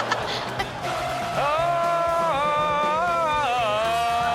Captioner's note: Chanel laughs; audience chanting